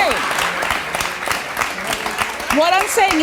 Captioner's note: audience clapping